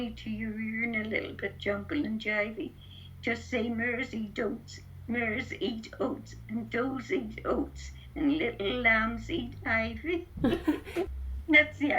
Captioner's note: laughs